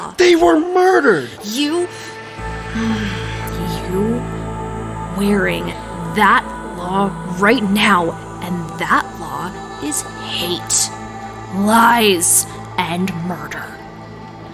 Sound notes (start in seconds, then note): 1.7 hissing